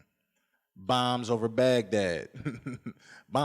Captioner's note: laughs